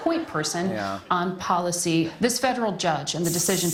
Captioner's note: aerosol can spraying